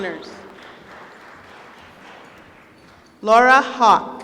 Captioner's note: applause